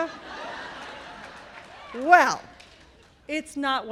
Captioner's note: laughter